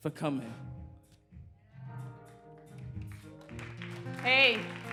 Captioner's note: applause